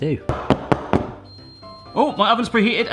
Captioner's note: timer going off